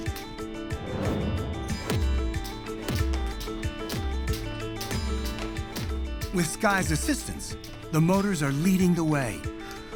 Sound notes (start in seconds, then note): 2.4 jumping echoing